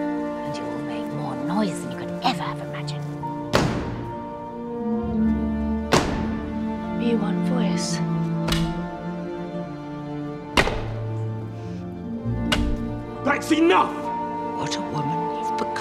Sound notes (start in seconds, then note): 3.3 foot stomping; 8.2 cane hitting floor